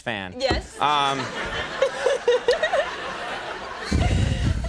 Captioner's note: Jennifer laughs